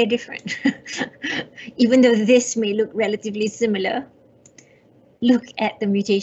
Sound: laughs

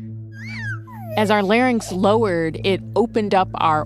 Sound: ARCHIVE CLIP: Baby cooing; ARCHIVE CLIP: Screeching bird

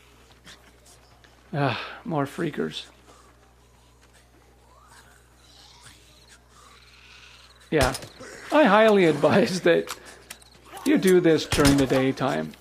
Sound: sigh

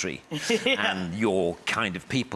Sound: laughs

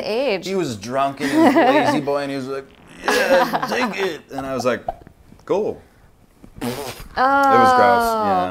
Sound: spits

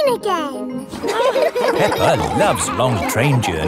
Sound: laughing

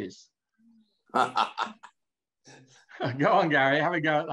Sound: laughs

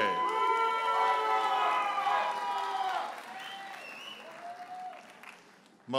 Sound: audience hollers and applauds

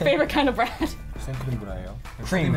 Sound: speaks in foreign language

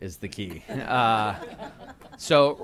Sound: laughter

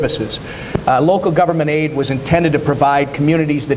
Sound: none

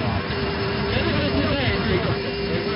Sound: angle Of Attack Warning Sound

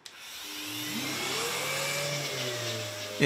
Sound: machine noise

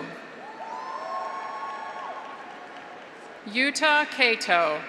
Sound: graduates cheer; audience applauds

